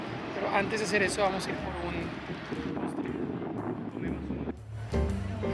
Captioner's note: wind